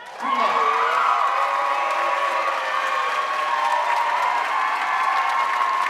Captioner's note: audience cheering and applauding